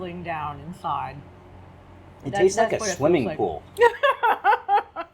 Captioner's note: laughs